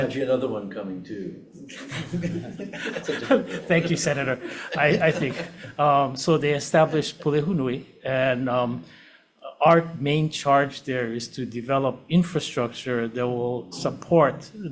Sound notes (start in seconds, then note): 1.7 audience laughing